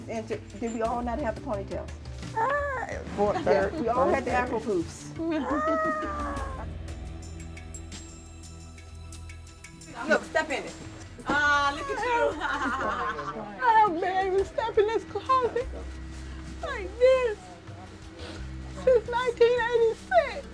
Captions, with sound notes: You all have the ponytails. You all had the apple poofs. Look, step in it. Look at you! [laughs] (CRYING) I haven't stepped in this closet like this since 1986.